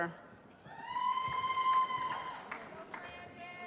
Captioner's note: cheering